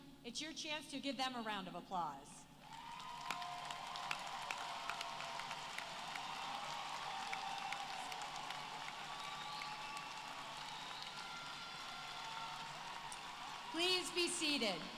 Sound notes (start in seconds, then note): 2.6 applause